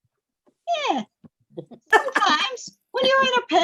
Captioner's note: laughter